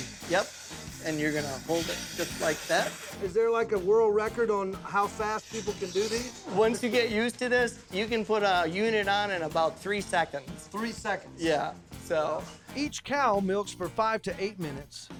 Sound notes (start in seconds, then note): none